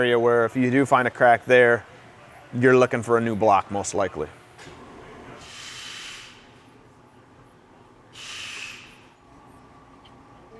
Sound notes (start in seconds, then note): 5.6 air hissing